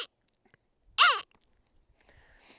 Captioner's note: imitation pika call